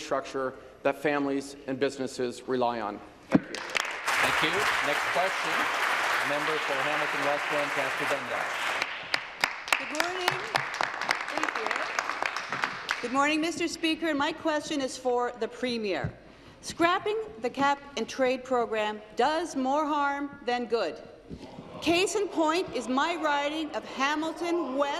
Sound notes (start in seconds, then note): 6.3 applause